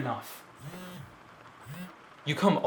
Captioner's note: phone buzzing stops